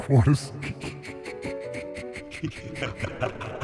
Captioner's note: mad laughter